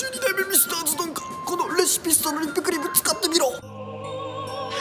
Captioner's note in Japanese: 枯れ声; 枯れ声